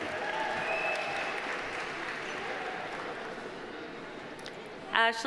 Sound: audience cheering; audience applauding

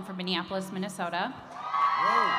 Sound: cheering

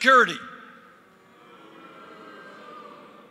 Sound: crowd booing

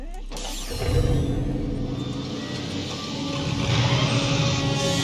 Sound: machine whirring

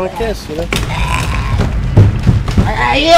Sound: retching continues

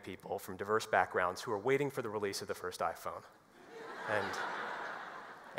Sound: laughter

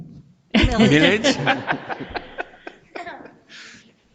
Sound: people laughing

